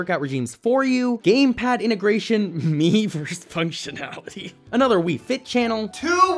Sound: laughter

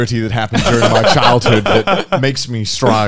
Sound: laughing

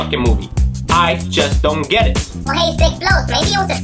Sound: speaking in a high pitch

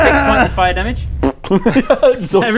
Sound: nyrggghgh; pffpt

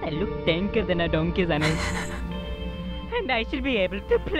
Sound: chuckling softly

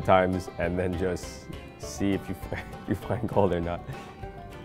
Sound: laughs

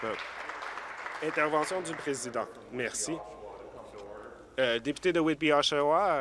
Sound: voice trailing

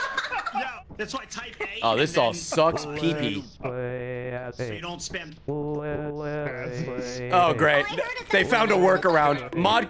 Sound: Microsoft Sam saying "let's play"

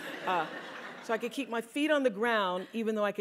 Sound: laugh

